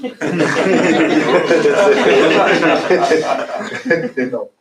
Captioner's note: laughter